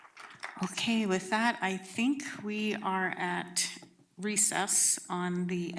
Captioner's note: applause